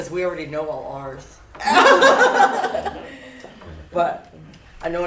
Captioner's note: laughter